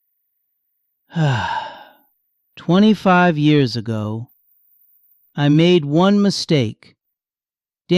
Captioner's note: sighs